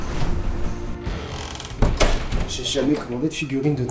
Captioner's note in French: grincement de porte